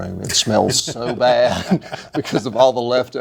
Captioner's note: laughing